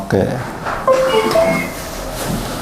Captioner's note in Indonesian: suara mesin printer; suara USB terpasang; suara mesin printer